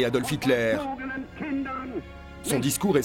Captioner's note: German spoken audio